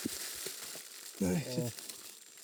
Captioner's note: cracks termites